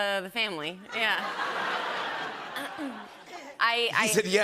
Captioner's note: laughter